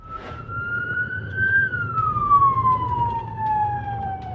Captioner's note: sirens